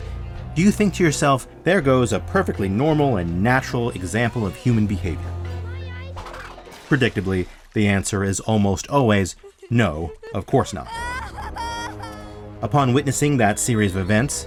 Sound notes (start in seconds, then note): 10.6 wailing